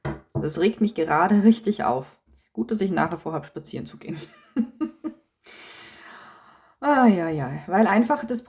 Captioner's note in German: gelächter